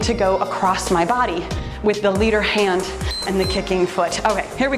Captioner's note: timer beeps